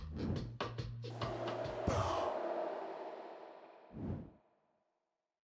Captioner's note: smoke gently howling